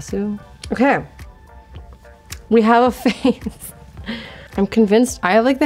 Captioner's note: laughs